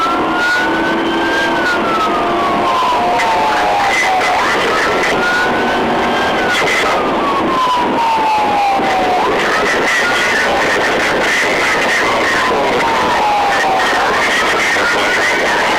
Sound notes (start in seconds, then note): 1.2 siren and radio voices continue